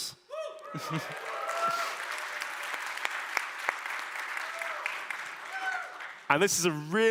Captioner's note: applause